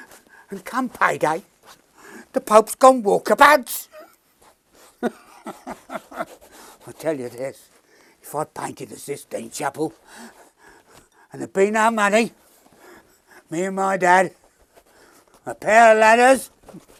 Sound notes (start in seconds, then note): 5.0 laughing